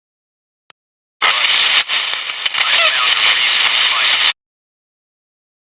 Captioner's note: Static